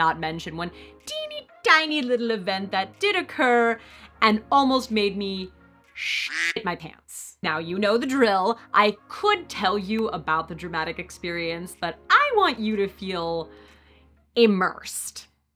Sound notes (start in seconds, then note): 6.0 quack